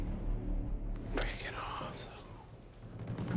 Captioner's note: whispering